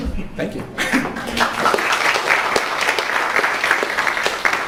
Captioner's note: crowd applauds